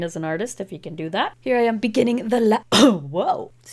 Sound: coughs

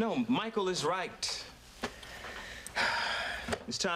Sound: sighs

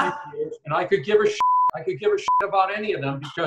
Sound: beep

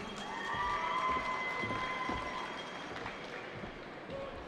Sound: cheering

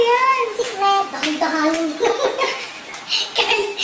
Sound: laughs

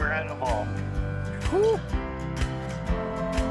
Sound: man cheering

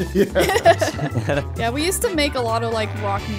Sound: everyone laughing amusingly

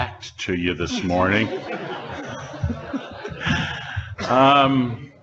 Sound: audience laughing

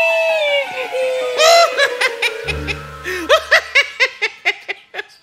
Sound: fat rabbit laughs wickedly

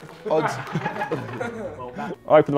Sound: Sidemen laughing

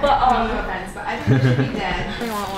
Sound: laughing

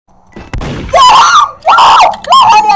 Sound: screaming

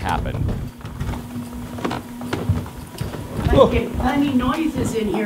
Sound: stars creaking

